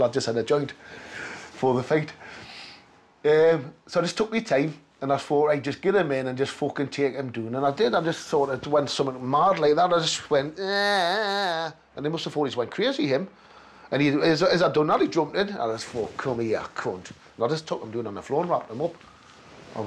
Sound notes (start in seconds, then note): 10.6 exclaims